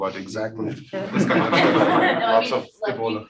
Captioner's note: all laughing